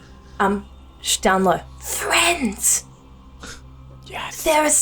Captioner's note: in a whisper